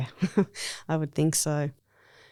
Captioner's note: laughs